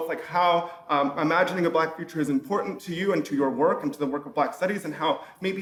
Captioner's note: none